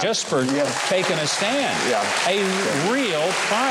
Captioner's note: audience applauds and cheering